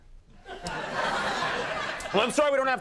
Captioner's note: audience laughing